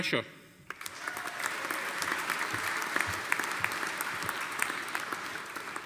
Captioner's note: audience applauding